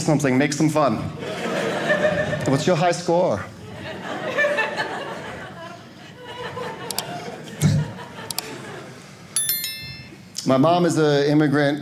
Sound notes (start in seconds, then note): 3.6 audience laughing